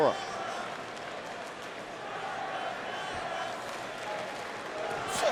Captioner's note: audience chanting